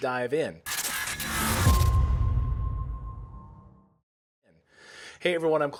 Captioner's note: sound effect